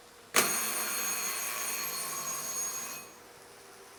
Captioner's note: diiiiingggggggg